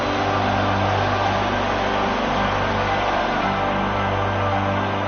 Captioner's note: crowd buzzing